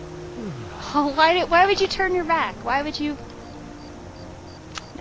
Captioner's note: yawn